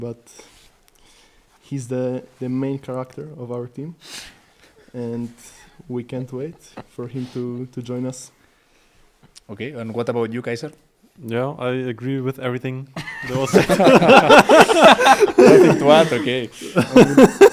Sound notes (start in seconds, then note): 15.5 all laugh